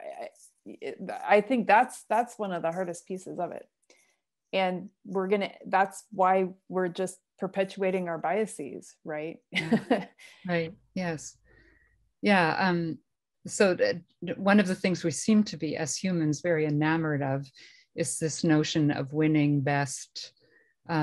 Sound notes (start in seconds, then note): 9.5 laughter